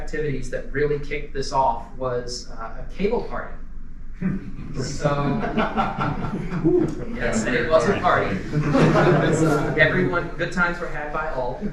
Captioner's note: laughter